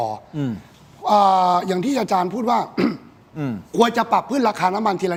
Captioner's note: clears throat